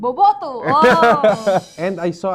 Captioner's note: laughs